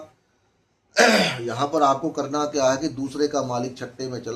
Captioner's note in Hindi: गला साफ़ करने की आवाज़